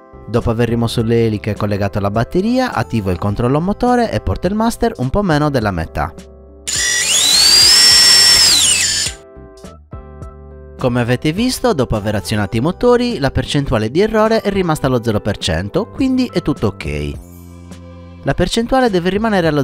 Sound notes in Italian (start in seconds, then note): 6.7 rumore del motore